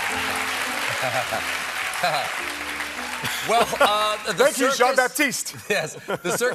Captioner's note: piano riff; cheers and applause